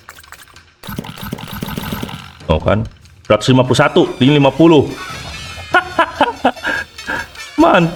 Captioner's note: laughs